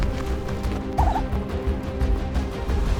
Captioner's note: trilling